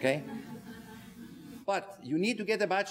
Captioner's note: audience laughing